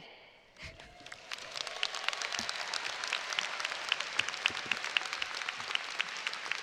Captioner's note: audience applauding and cheering